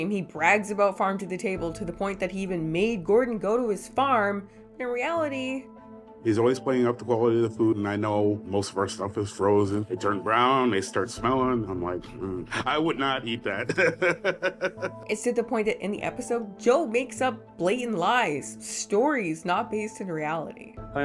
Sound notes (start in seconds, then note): 13.4 laughing